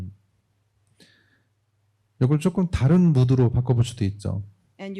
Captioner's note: speaking korean